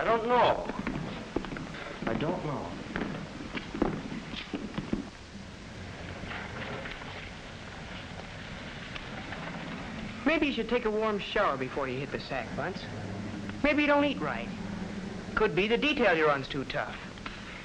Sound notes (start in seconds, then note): 3.3 footsteps as men continue to exit